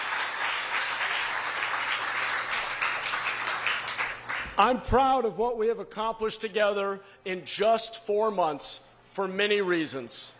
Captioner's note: applause